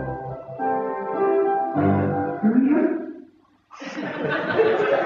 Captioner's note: audience laughter